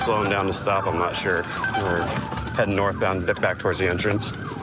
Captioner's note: sirens blaring